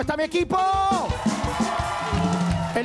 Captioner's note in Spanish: Grita